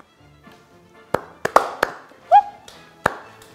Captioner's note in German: Verspielte Musik; Applaus, Jauchzen